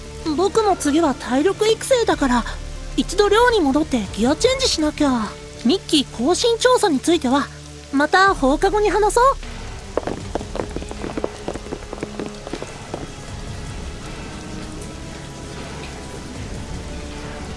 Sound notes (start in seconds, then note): 12.4 whispering noises